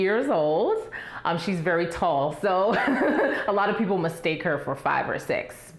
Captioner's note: laughs